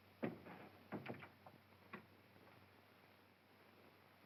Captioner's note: door closes